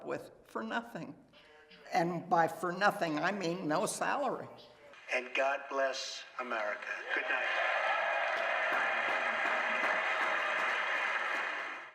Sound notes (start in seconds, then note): 7.1 applause